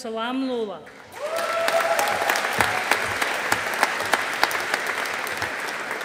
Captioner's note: audience applauding